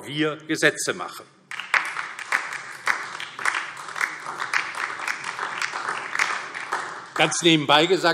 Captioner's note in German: Beifall DIE LINKE und vereinzelt SPD